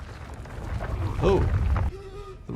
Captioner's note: rock person rumbling